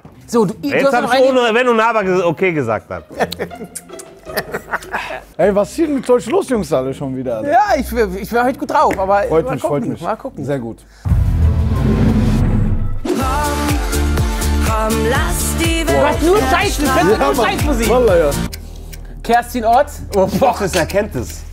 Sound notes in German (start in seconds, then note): 3.6 Schmatzende Laute, verspielte Klänge; 11.0 Spannungsvolle Klänge